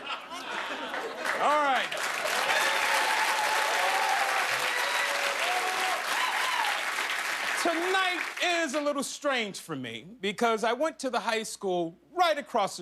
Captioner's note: cheers and applause